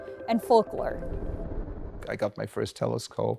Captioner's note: transition whooshes